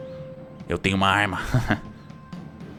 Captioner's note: chuckles